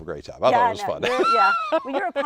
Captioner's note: laughs